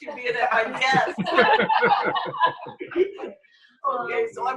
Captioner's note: laughter